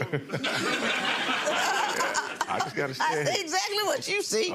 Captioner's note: audience laughs; Lynn laughs